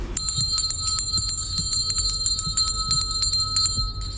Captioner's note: bell rings